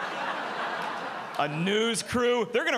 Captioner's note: audience laughing